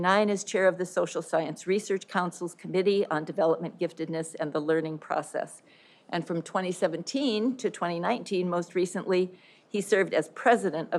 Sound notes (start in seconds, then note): none